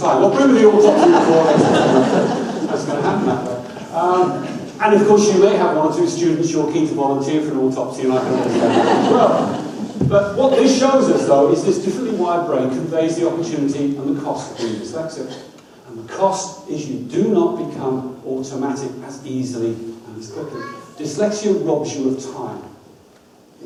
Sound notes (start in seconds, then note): 0.1 audience laughs; 8.1 audience laughs hard